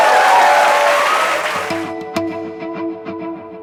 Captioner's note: applause